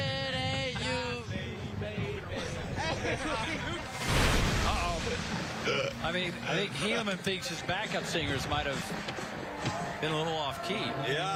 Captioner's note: laughter